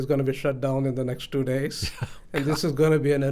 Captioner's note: laughs